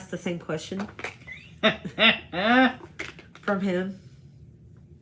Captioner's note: participant laughs